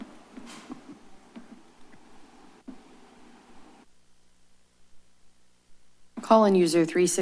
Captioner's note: silence